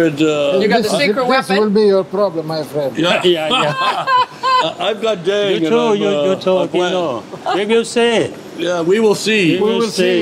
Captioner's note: all laugh